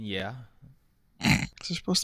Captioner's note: snorts